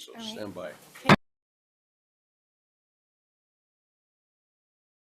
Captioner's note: gavel bangs